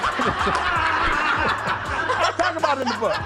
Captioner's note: all laugh